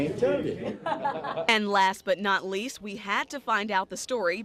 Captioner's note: laughs